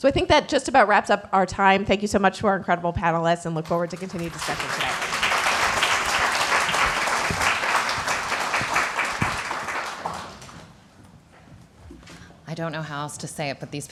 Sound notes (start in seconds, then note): 6.0 applause